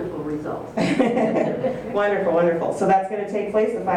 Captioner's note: laughs